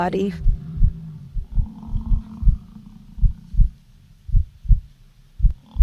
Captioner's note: buffalo bellowing; heart beating